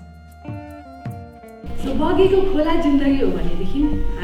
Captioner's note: in Nepali